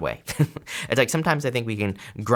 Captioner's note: laughs